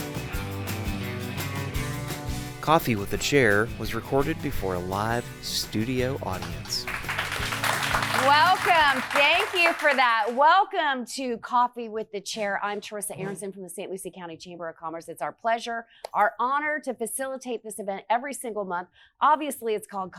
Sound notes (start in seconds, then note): 0.1 upbeat music; 6.1 audience applauding